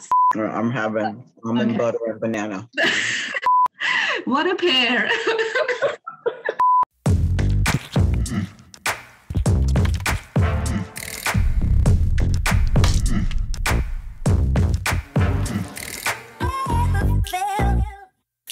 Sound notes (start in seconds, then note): 2.8 laughter; 4.9 laughter; 6.6 beep, music